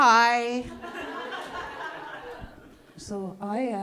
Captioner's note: audience laughing